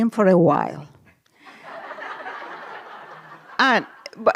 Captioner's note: laughter